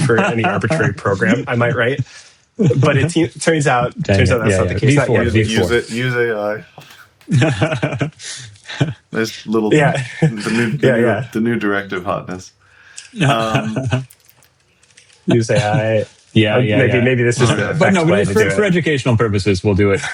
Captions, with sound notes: for any arbitrary program, I might write. But it turns out, turns out that's not the case. Use AI. Use AI. (laughing) This little, the new directive hotness. You say AI. Yeah, yeah, yeah. Maybe this is-- But no, for educational purposes, we'll do it.